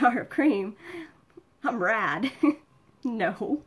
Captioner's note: laughs